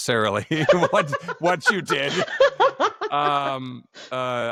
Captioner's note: laughter